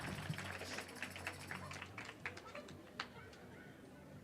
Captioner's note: cheering and applause